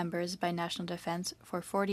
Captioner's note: speaking French